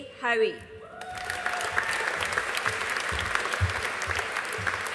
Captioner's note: audience applauding